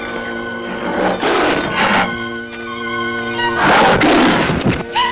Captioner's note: Brutus growling